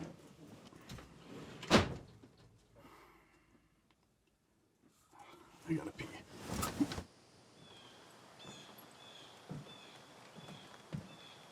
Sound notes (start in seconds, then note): 1.7 door closes; 8.0 birds chirping